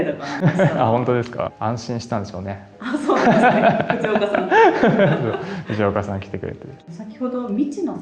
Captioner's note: laughs